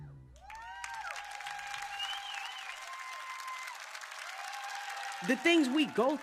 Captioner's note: crowd cheers